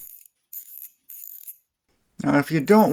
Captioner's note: ratchet sounds